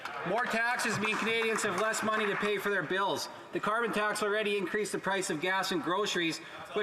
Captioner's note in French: voix de l'interprète